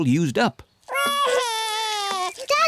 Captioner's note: wails